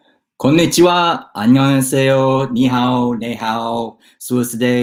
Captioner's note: speaking in foreign language